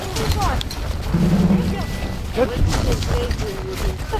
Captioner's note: cadets chatter; snow crunching